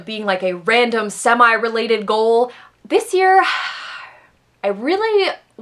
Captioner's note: sigh